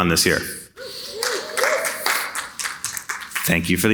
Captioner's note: audience cheering